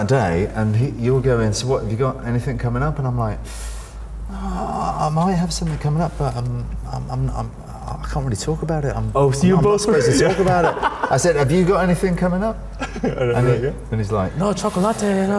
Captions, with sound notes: - We met up that day and you were going, "So what have you got anything coming up?" And I'm like, "I might have something coming up, but I can't really talk about it." - Oh, so you both were- (laughs) - I said, "Have you got anything coming up?"